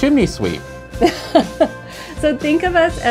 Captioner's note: laughs